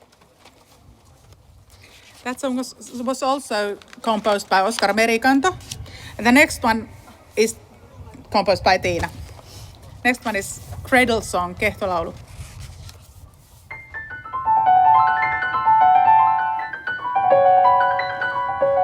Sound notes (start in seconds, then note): 13.7 soitto alkaa